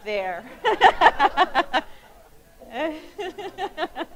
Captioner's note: laughing